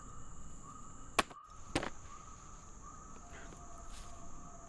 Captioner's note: slap cracking